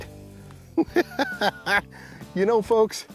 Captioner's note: laughs